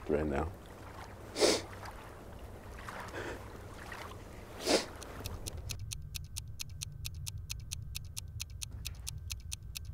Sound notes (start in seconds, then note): 1.4 sniffs; 5.0 clock ticks loudly